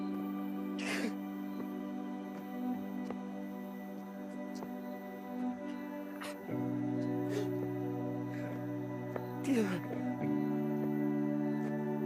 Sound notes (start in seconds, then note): 1.0 Mark crying; 3.5 gentle music; 9.5 Mark crying; 11.8 gentle music